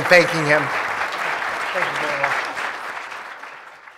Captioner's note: applause